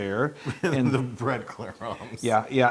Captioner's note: laugh